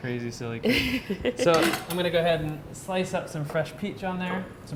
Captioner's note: laughs